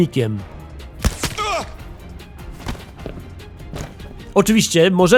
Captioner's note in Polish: wytłumiony wystrzał, zduszony okrzyk, upadające ciało